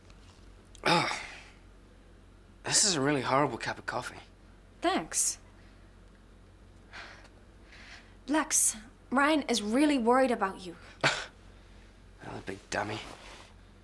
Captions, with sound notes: - Ugh. This is a really horrible cup of coffee. - Thanks. Lex, Ryan is really worried about you. - (scoffs) The big dummy.